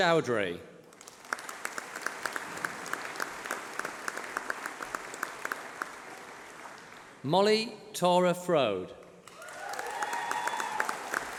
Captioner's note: applause